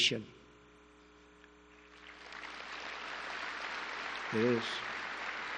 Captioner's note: applause